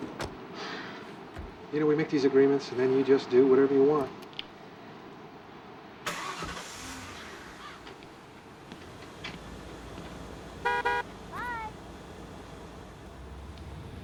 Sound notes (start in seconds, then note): 1.2 sighs; 6.0 engine starts; 10.6 horn honks